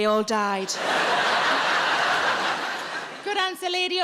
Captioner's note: audience laughing